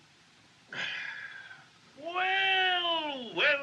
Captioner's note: Doc Sighs